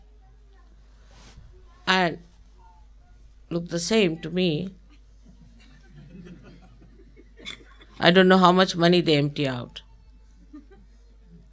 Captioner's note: laughter